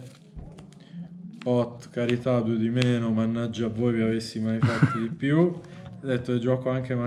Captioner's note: laughs